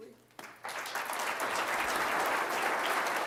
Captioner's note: applause